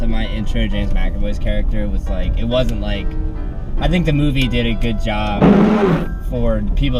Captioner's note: windshield wiper noise